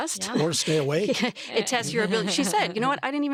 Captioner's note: chuckles